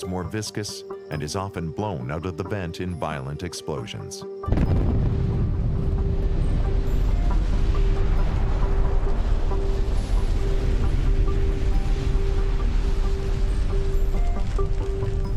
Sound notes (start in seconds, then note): 4.5 Explosion